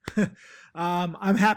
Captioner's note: chuckles